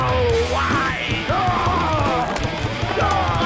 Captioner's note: cheering